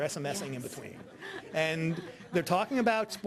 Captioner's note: audience laughing